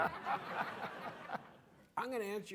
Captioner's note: audience laughing